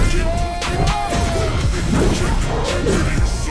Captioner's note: growling